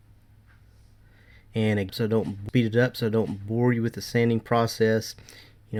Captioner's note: murmuring